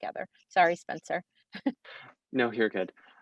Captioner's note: chuckles